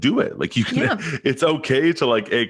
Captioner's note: chuckles